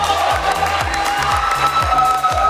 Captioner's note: Aplausos; Tepuk tangan; clapping; Vỗ tay x2